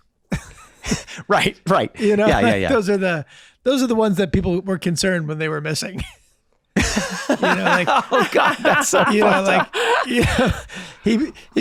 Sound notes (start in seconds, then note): 0.3 Charlie chuckling; 6.8 Glenn laughing